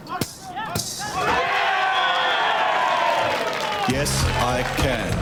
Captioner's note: cheering